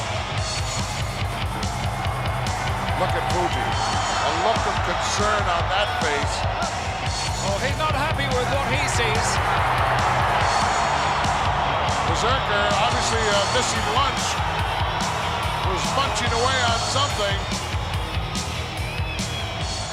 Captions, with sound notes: (exciting music) Look at Fuji, a look of concern on that face. Oh, he's not happy with what he sees. (audience applauding and cheering) Berzerker, obviously, missing lunch, was munching away on something.